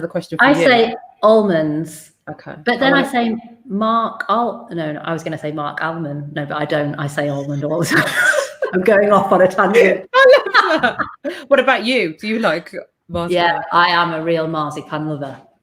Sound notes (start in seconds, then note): 9.7 laughs